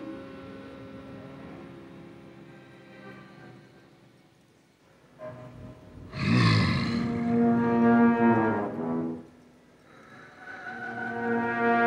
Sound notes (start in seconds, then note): 2.5 tense music; 5.8 Donald growls